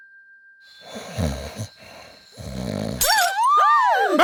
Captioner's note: Julius snoring; glass shattering; women gasping